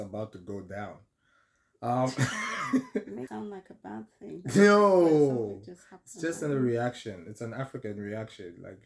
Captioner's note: laughter